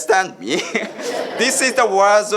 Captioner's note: chuckling